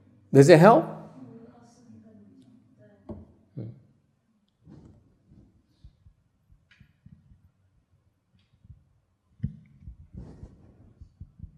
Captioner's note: silence